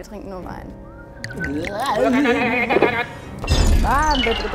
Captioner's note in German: Gruselige Laute